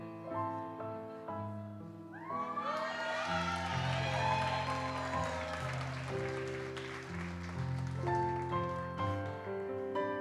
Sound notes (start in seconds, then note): 2.2 audience cheers and applauds